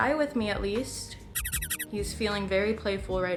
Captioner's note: squeaking sounds